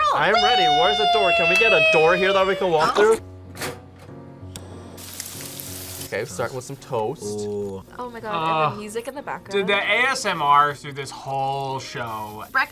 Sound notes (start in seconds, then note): 4.8 bacon sizzling